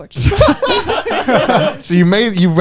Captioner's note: laughing